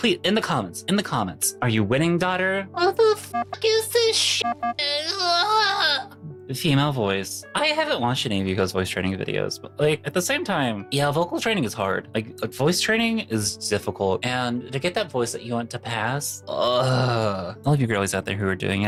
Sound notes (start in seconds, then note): 4.8 sobbing